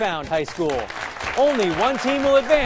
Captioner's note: applause